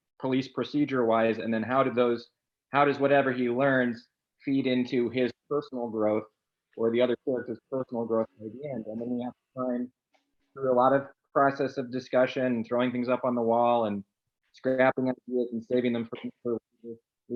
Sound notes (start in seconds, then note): none